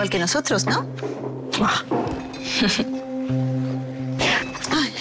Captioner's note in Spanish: Risas